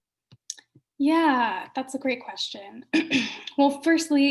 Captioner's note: clears throat